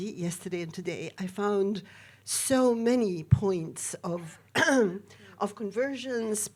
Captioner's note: clearing throat